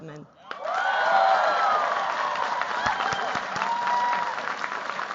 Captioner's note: cheers, applause